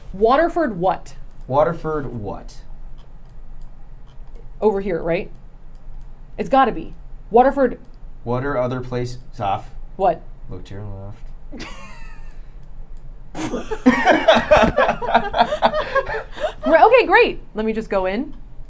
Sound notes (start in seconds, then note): 13.4 laughing